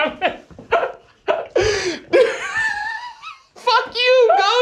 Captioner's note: laughing